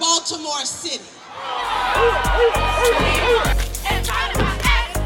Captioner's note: cheering; chanting rhythmically